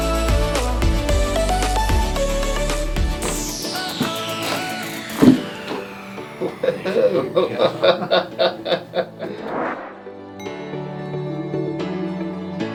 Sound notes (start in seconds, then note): 5.3 cracking; 6.3 patient laughing